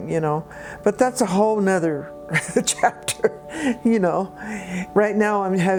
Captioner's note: chuckles